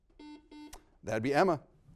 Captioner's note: buzzer beeping